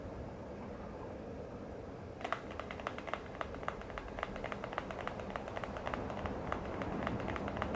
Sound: fingernails on mobile noise

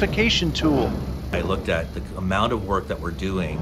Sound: construction whirring

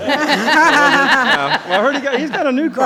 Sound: laughing

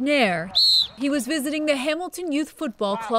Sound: whistle blowing

